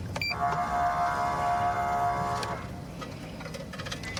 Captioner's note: horn blaring